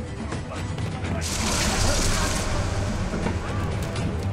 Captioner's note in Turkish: Düşme Sesi